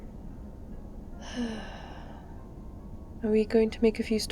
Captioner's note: sighs